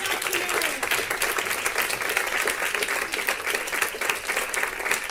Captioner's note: audience applause